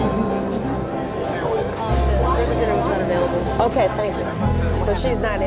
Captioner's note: indistinct chatter